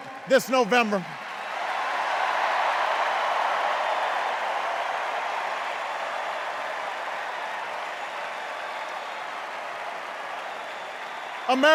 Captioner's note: hoots, enduring cheers and applause